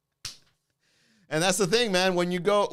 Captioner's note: claps